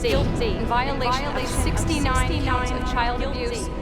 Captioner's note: echoing